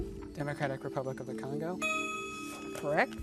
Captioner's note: ding